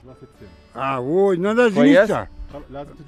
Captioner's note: speaking in Kyrgyz